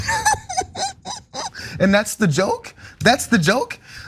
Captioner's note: laugh